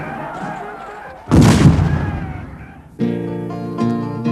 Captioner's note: rhythmic drumming; shouting; booming